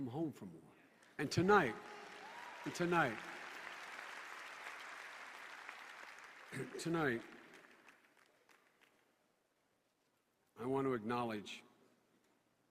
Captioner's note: voice breaking from emotion